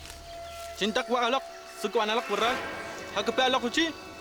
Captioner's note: speaking Arawak